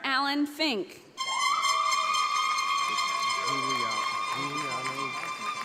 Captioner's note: audience applauds